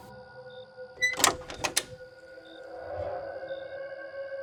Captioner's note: door creaks